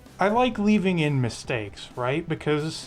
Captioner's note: none